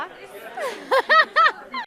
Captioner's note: laughter